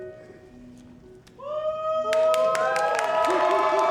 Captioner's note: audience cheering; audience applauding